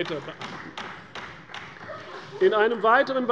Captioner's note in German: Beifall bei der CDU